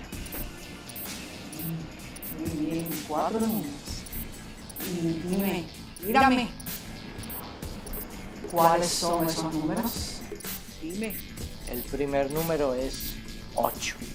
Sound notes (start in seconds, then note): 2.8 echoed voice; 5.2 echoed voice; 9.3 echoed voice